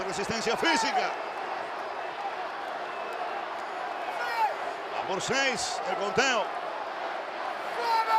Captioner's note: applause